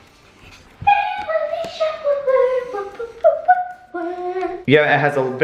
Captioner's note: excited high pitched cheering